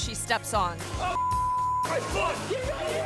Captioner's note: beep